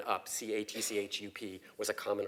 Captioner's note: cough